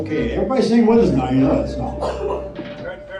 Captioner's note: coughing